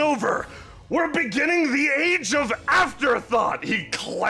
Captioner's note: yelling